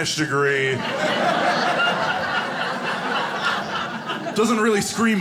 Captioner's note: audience laughing